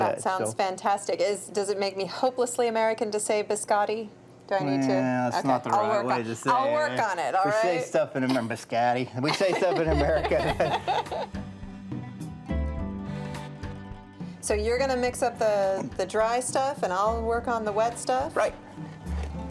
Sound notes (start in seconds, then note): 9.3 both chuckling; 11.2 italian-style instrumental